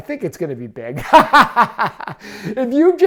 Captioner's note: laughing